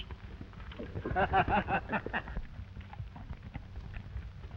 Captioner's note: both laughing